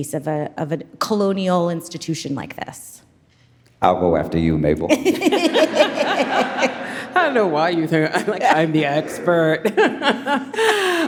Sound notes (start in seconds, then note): 7.1 laughing